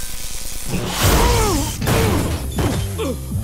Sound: grunting, thudding

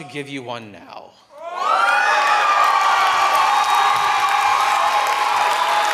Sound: audience cheering

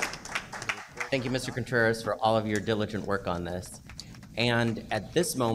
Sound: pounding of gavel; applause

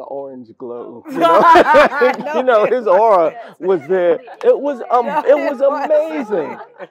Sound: laugh

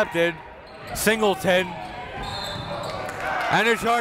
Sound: whistle

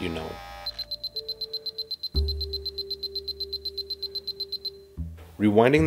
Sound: beeping

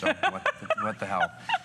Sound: laughter

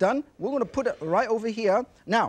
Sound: plate whishes

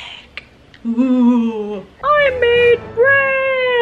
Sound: moaning

